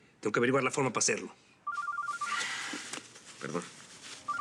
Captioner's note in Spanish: suena el celular